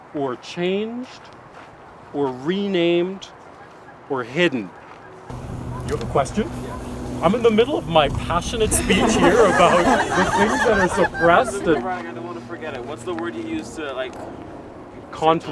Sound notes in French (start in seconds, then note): 11.0 rires